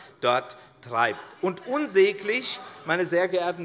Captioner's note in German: Zurufe von der SPD und der LINKEN